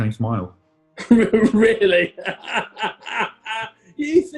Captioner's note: laughing